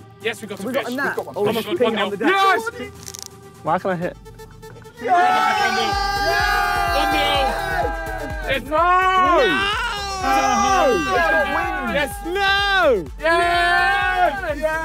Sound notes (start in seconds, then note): 5.1 cheer; 5.1 upbeat music; 10.3 cheer